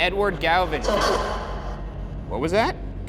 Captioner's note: voice shouts